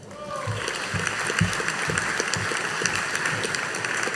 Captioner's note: audience applauding